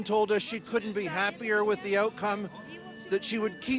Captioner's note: speaking russian